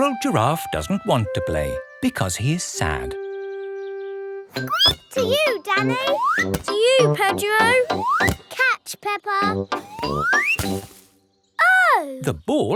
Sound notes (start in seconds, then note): 4.5 squeaks